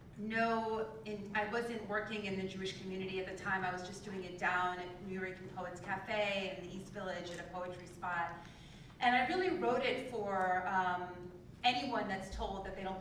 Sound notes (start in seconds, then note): none